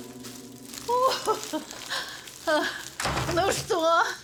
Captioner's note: chuckles